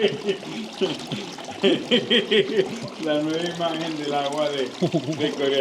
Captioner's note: laughing